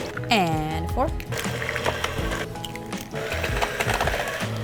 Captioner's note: whirring